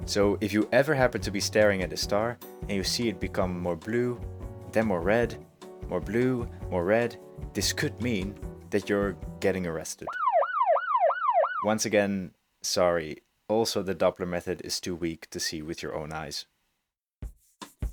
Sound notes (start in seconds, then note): 10.0 police siren sound